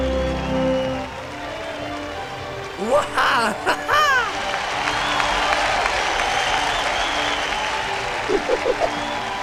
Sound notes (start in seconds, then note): 2.8 Jehu cheering; 5.8 crowd cheering